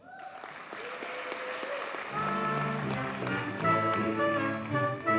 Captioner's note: audience cheers and applauds